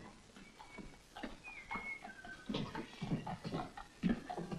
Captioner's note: man whistles